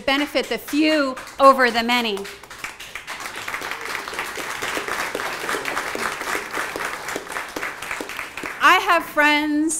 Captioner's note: applause